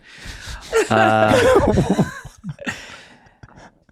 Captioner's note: laughing